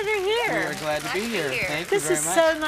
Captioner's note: applause